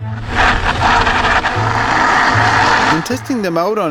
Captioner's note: tires grinding against dirt